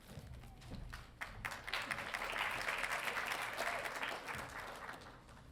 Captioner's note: audience applauding